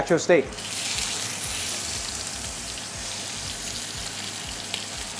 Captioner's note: sizzling sound